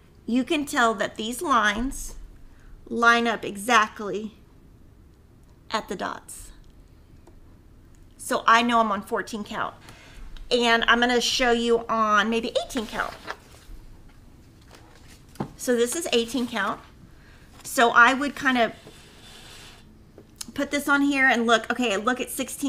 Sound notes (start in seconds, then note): 12.6 paper shuffling